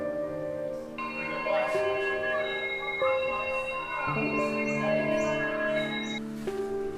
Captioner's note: the sound of the primary school bell can be heard in the background